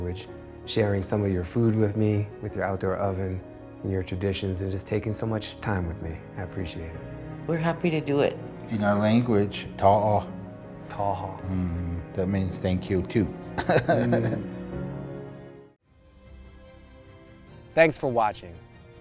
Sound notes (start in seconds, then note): 9.4 speaks foreign language; 10.6 Baratunde speaks foreign language; 13.5 chuckles